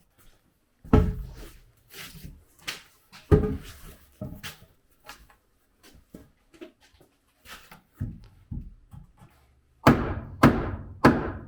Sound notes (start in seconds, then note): none